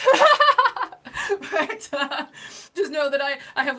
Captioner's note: laughing